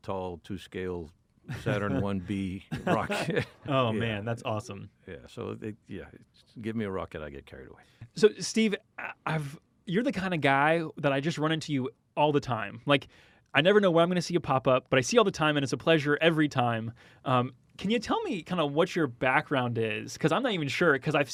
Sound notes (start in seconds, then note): 2.6 chuckles; 2.7 laughs